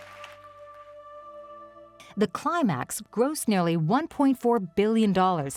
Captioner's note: audience clapping